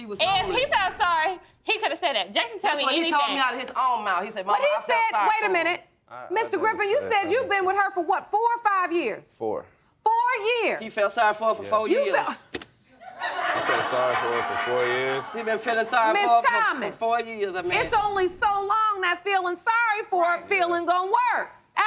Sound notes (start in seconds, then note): 13.0 audience laughing